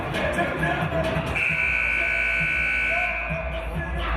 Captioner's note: buzzer